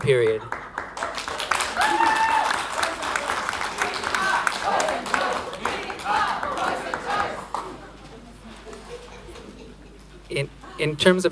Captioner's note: applause